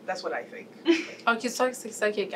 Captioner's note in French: rires